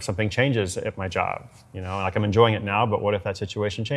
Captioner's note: none